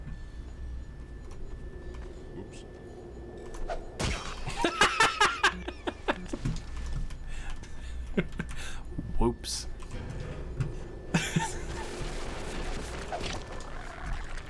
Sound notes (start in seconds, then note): 9.8 death noises